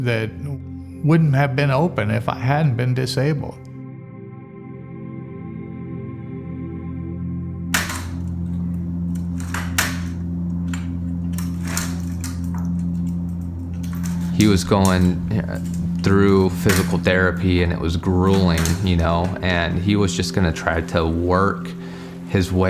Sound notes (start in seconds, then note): 8.2 walker clanking